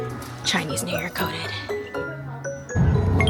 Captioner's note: whispers